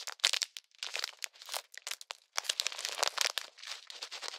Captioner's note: rustle